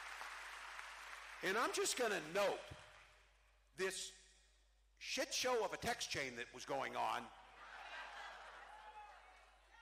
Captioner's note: cheering